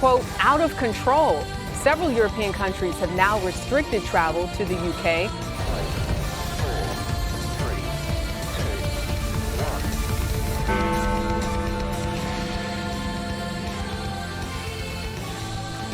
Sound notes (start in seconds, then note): 10.6 Big Ben bongs